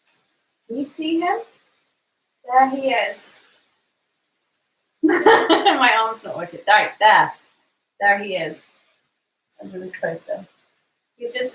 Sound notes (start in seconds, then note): 5.1 laughs